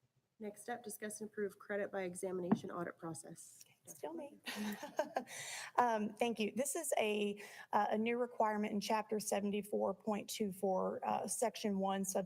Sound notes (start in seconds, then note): 4.5 laughs